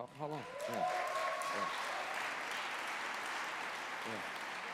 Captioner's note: applause